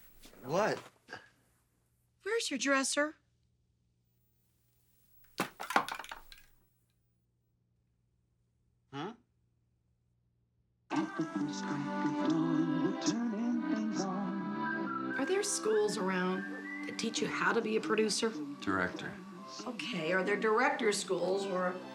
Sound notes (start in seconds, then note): 10.8 singing; 14.5 whistling